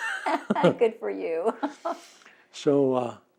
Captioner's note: laughs